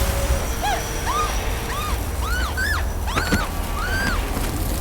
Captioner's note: light whooshes; vampire groans loudly